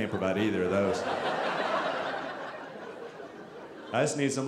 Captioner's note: audience laughing